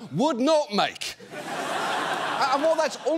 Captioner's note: audience laughs